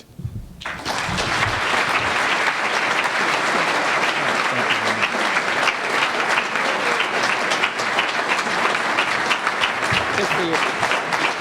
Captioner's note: applause